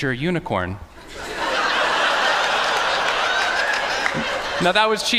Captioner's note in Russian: Смех